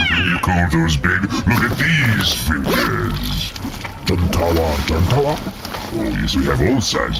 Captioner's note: unzips bag